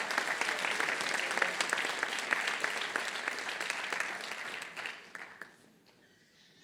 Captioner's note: applause